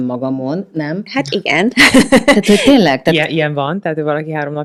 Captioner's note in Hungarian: nevetés